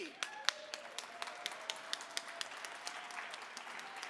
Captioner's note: audience clapping